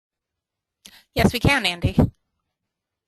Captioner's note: voiceover